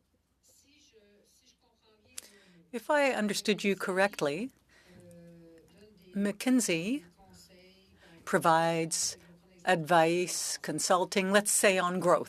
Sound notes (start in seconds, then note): 3.2 speaking French